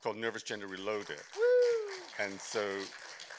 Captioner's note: applause